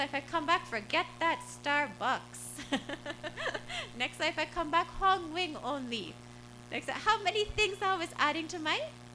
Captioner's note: laughter